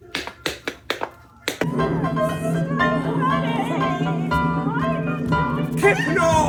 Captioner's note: whining